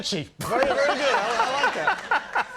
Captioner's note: laughing